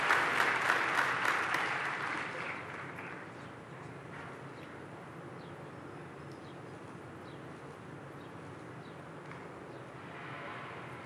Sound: cheers and applause

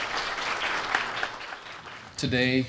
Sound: people applauding

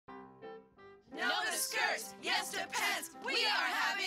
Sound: chanting

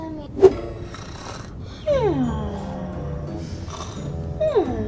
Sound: snoring

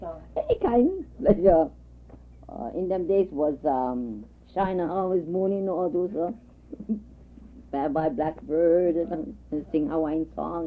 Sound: laughs

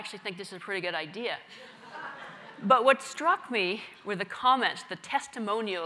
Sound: laugh

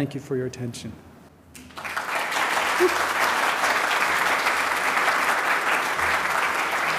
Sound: audience applause

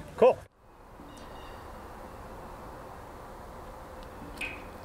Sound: birdsong

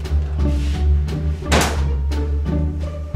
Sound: door slamming

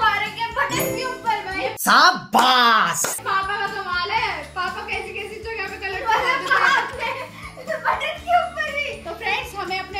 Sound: laughter

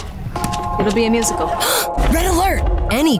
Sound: gasping

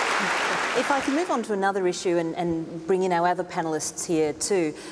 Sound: applause

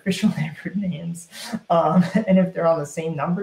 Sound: chuckles

